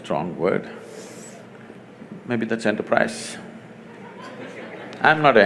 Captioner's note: laughter